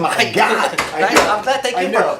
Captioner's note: laughs